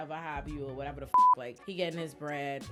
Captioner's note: beep